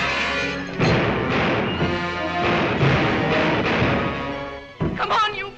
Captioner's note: glass shatters; dramatic music continues; gun bangs